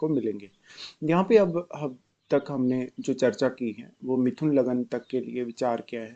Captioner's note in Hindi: नाक से की जाने वाली आवाज़